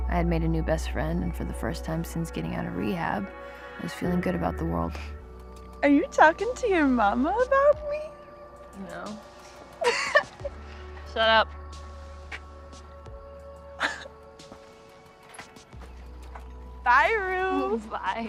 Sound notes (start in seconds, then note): 9.7 Jules laughs; 13.8 Jules chuckles